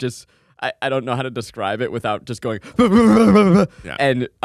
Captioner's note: yells